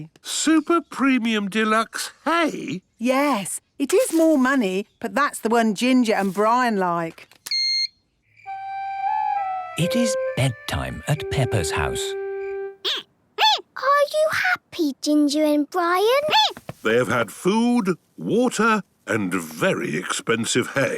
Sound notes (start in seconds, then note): 7.6 beep!; 12.5 squeaking